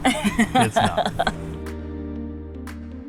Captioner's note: laughing; bright music